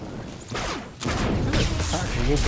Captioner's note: gunshots